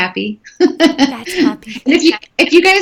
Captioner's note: laughing